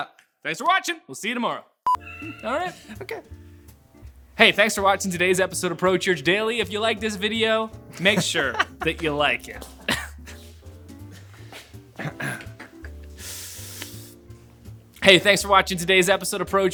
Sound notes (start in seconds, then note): 1.8 beep; 8.0 laughter; 10.2 laughs